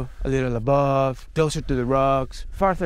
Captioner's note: none